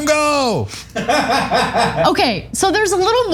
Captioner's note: laugh